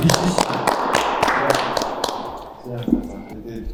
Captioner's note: applause